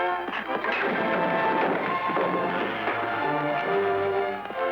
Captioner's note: wood clattering